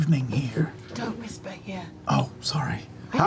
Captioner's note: whispers